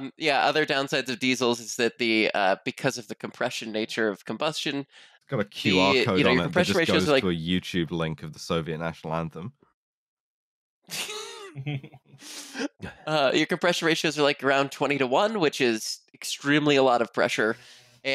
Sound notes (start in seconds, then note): 10.9 laughter